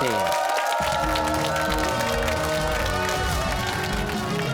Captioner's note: cheers and applause